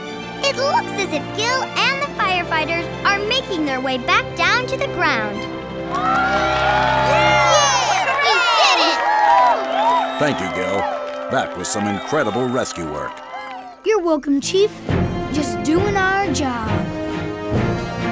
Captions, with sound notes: It looks as if Gil and the firefighters are making their way back down to the ground. [cheering] Thank you Gil, that was some incredible rescue work. You're welcome, Chief, just doing our job.